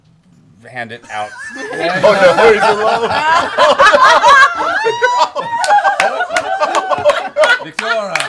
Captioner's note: laughter